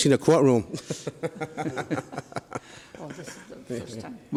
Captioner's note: laughs